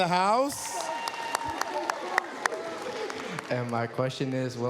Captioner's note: cheers, applause